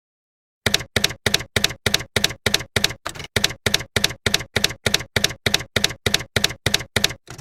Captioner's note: typewriter keys clacking